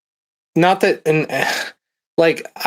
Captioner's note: sigh